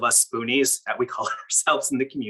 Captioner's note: chuckles